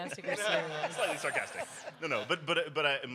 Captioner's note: audience laughs